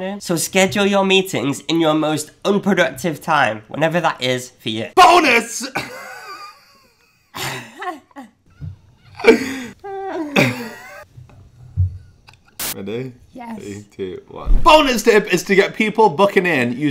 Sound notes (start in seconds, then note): 5.8 laughing